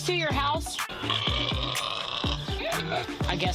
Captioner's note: loud oink